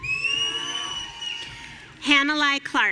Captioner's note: audience cheering